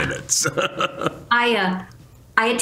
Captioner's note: chuckles